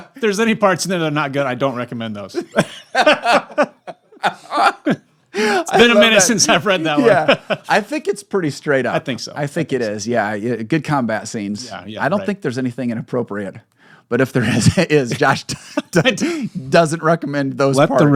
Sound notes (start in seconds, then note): 2.3 laughter